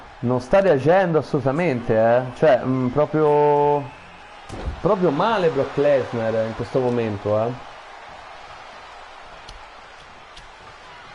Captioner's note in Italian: Applauso